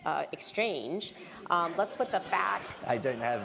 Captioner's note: laugh